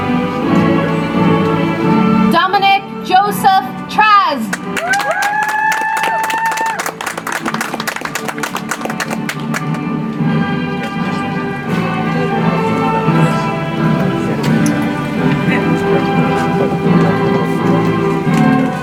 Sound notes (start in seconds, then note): 8.2 audience applauds; 12.1 soft music